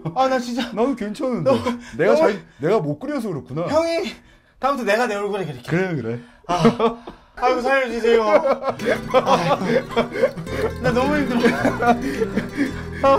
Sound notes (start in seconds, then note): 7.9 laughing; 8.8 keep groaning